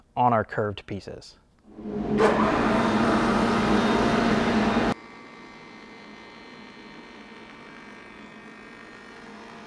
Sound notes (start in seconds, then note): 1.7 molder whirring; 5.5 molder buzzing